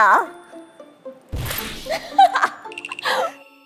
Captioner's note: thud!